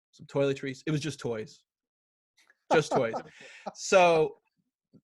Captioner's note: laughs